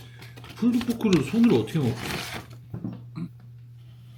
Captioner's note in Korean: 흐음